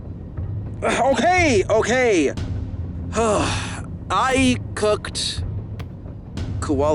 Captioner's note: sighs